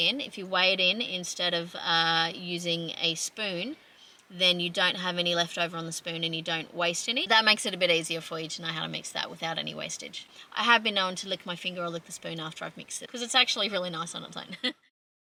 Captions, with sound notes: -- if you weigh it in instead of, uh, using a spoon, then you don't have any left over on the spoon and you don't waste any -- that makes it a bit easier for you to know how to mix that without any wastage. I have been known to lick my finger or lick the spoon after I've mixed it, 'cause it's actually really nice on its own. [chuckles]